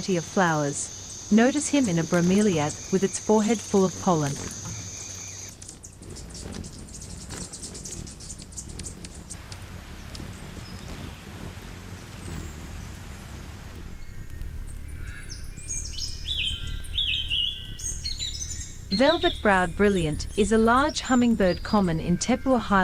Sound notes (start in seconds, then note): 5.5 birds chirping; 9.3 river flowing; 13.7 birds singing